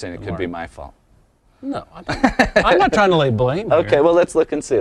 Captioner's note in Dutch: lacht